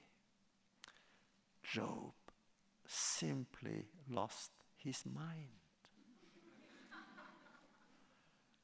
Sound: laughter

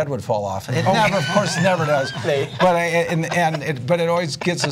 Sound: laughter

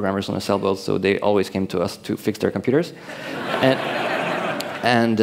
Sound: laughter

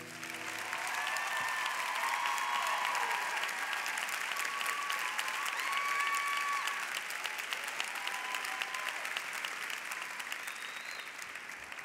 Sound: cheers and applause

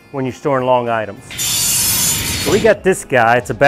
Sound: metal blades shearing

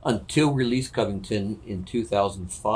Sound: none

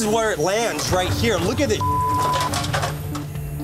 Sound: beeping

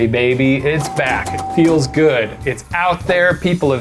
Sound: dinging

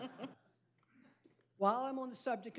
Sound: laughter

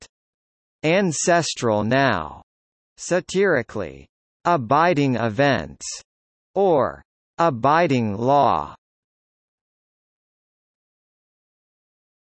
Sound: satirically

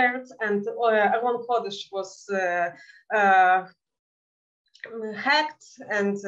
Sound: speaking in Yiddish

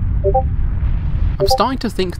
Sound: Discord notification

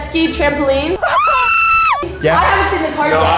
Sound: screams

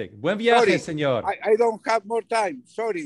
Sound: speaks foreign language

